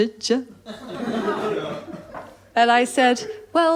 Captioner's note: laughter